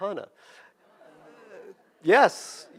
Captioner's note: audience groans